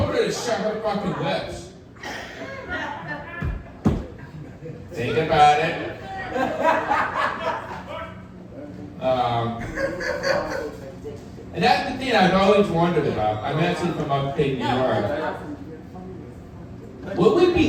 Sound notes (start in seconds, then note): 1.9 audience laughing